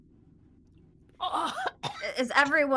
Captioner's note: coughs